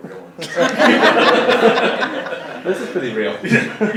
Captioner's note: audience laughing